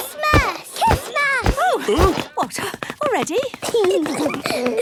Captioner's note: exclamations; giggling